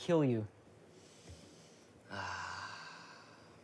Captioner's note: sniffing